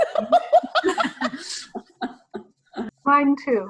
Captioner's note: laughs